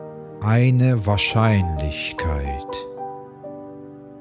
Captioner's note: german